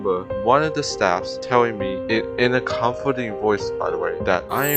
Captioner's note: in a comforting voice btw